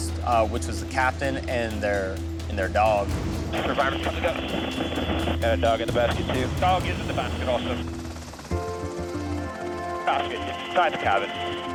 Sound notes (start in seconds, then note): 3.8 man Over Radio; 5.5 person Over Radio; 6.8 man Over Radio